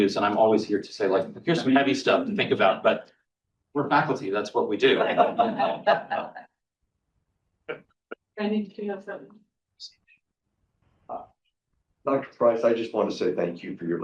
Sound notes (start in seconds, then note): 4.8 all chuckling